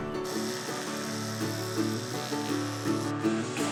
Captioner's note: toothbrush whirrs; gentle country music